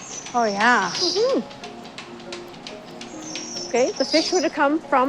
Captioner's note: canning line clanking and humming